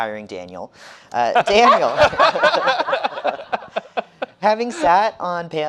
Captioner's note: panelist laughing